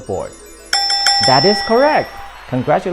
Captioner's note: bell rings